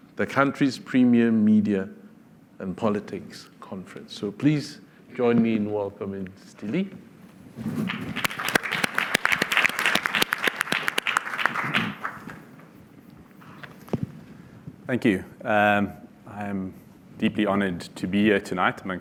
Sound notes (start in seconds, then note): 7.8 applause